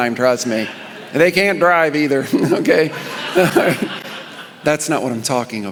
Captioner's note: congregation laughing